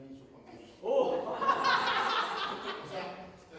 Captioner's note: laughs